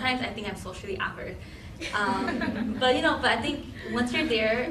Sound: laughing

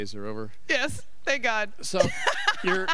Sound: chuckling

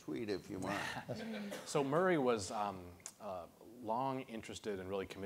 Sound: laughs

